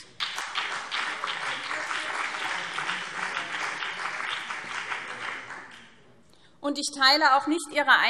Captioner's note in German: Beifall BÜNDNIS 90/DIE GRÜNEN und CDU